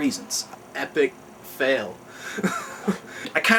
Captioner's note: chuckles